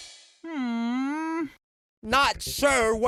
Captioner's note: muffled sigh